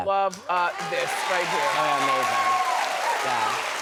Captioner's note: applause